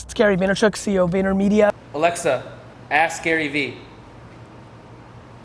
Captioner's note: male Voice